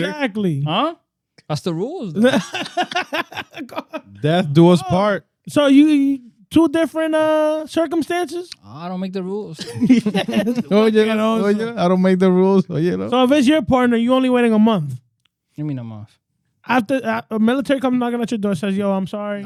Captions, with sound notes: Exactly. Huh? That's the rules, though. (Laughing) Death do us part. So, two different circumstances? I don't make the rules. (Laughing) I don't make the rules. So, if it's your partner, you're only waiting a month. You mean a month? After a military come knocking at your door and you're like, "Yo, I'm sorry."